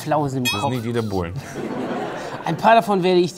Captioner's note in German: Lachen